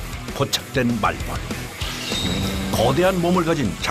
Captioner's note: an Asian giant hornet makes a threatening sound and attacks